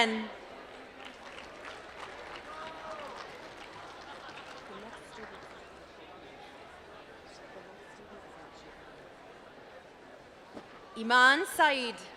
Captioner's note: applause